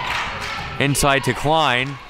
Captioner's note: claps